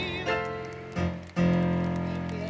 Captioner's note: clapping, Music